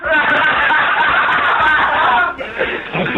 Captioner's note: laughing